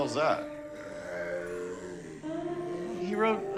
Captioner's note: snarls